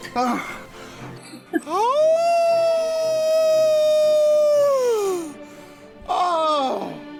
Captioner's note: Simon howls like a wolf